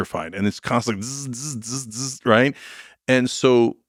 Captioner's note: imitating electricity